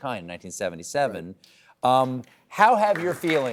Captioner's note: applause